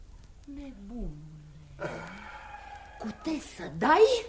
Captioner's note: sigh